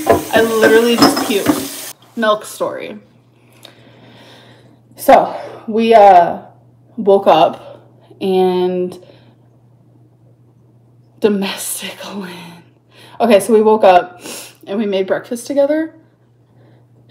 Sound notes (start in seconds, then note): none